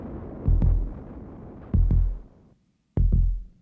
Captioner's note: heart beating